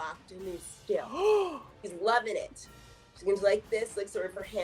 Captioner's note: gasps